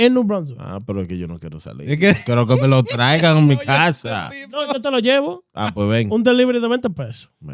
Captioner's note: speaking In Foreign Language